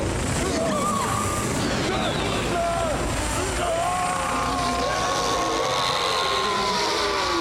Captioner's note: screaming